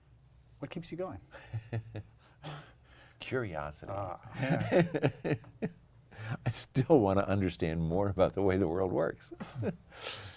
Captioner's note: laughter